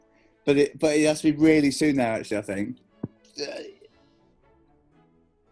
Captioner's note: none